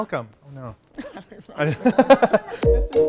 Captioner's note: laughter